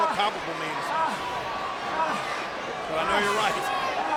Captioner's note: Swagger groaning